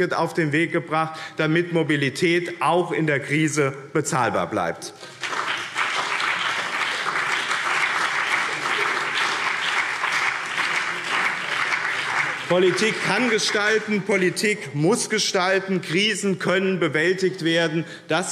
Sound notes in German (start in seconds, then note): 4.9 Beifall BÜNDNIS 90/DIE GRÜNEN und vereinzelt CDU